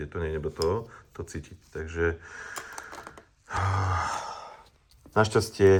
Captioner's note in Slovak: vzdychanie